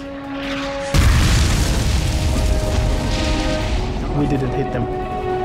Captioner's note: explosion booming